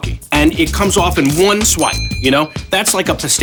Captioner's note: bell dings